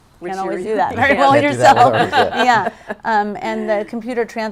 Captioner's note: laughing